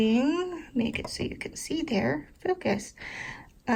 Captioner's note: exasperated huff